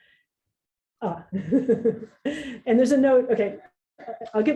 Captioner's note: laughs